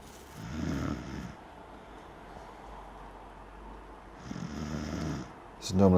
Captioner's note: snoring